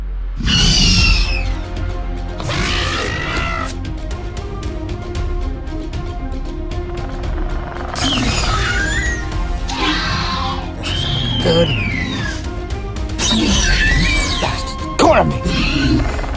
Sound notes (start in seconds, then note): 0.3 velociraptor screeching; 3.3 intense music; 9.6 velociraptor screeching